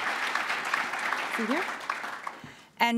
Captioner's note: applause